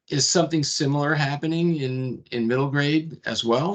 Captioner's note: none